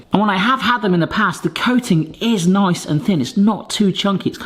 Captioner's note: none